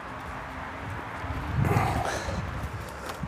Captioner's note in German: Straßenlärm im Hintergrund